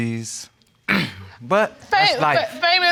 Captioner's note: clears throat